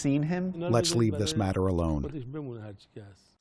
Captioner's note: through translator